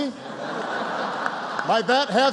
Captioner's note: laughter